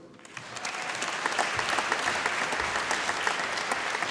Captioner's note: applause